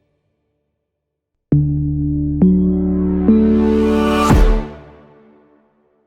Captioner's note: stomps, once more